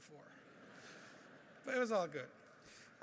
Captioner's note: laughing